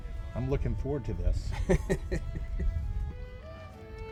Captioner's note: chuckles; renaissance music